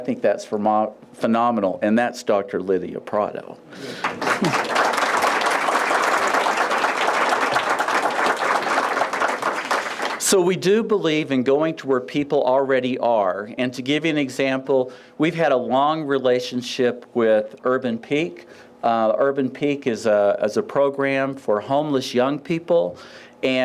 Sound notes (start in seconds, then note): 3.9 applause